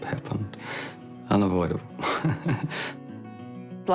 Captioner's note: chuckles